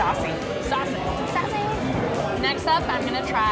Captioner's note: sing-song